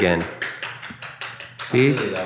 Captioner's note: clapping